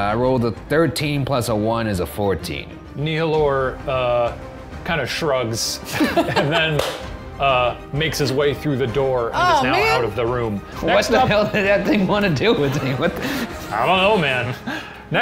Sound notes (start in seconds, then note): 5.9 all laugh; 12.5 laughing